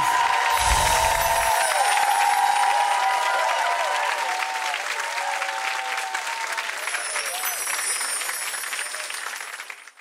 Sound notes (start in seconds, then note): 0.0 audience cheering; 6.9 chimes